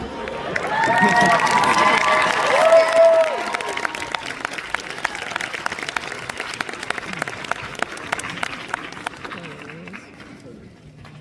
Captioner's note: applause